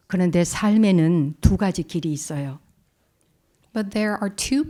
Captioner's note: speaking in Korean